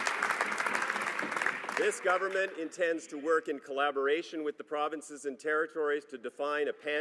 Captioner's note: some Applause